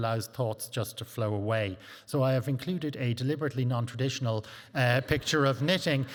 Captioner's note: chuckles